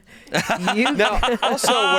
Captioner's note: laughing